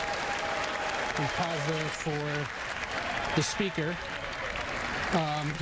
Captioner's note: cheers and applause